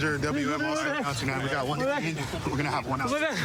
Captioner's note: excited chatter